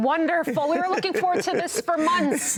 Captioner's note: laughs